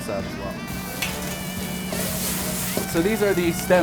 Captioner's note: sizzling